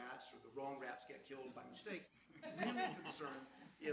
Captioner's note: panel laughs